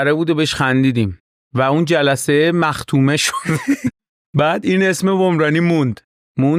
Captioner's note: laughs